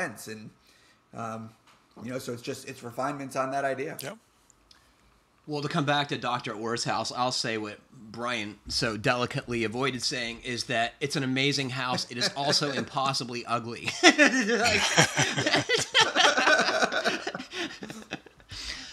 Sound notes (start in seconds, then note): 13.8 laughter